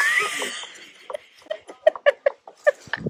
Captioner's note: laughter